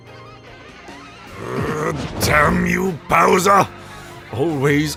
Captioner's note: growls